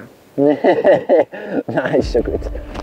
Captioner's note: laughs